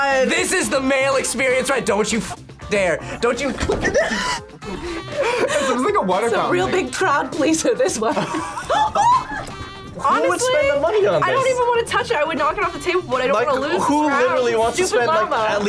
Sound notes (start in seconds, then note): 3.1 both laugh; 7.7 laughs